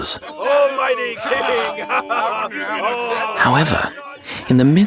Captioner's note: soldiers laughing